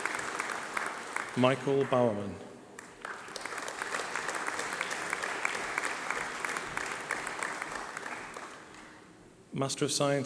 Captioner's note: applause